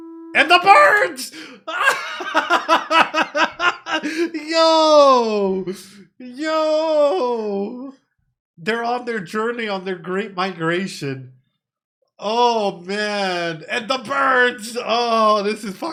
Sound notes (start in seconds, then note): 3.0 laughing